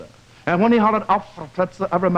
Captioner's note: speaks german